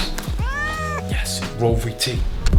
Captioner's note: Charlie meows